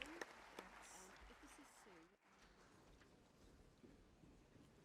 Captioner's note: applause